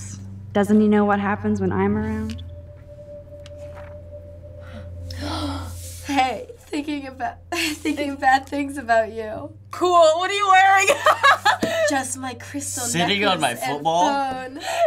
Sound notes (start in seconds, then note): 4.6 gasp; 10.8 laughs; 14.7 laughs